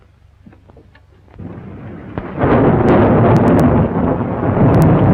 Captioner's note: thunder rumbling